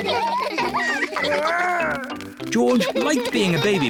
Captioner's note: all laugh